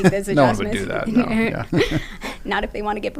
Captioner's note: laugh